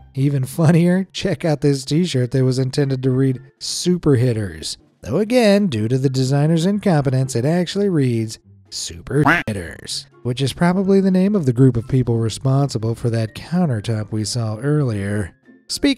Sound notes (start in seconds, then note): 9.2 quack